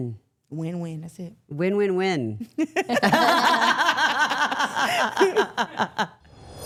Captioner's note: everyone laughing